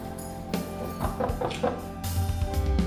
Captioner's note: toca la puerta